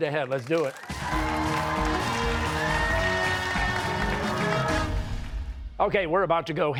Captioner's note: cheers and applause